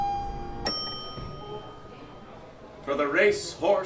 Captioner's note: elevator ding... audience murmuring